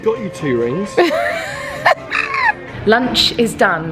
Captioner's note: laughing